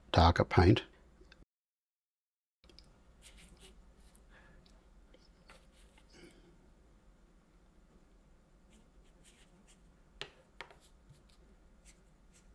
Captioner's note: silence